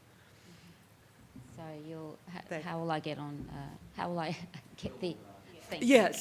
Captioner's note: chuckles